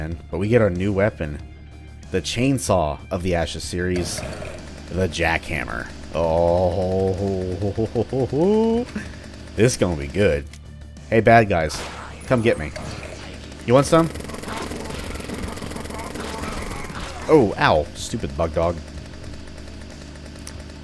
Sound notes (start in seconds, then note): 3.9 jackhammer engine starts up; 6.8 eager chuckling; 11.8 Glock fires; 14.5 jackhammer carnage